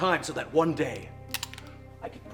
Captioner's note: cocks gun